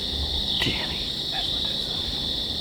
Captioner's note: whispering